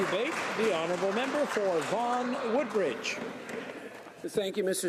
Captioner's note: some Applause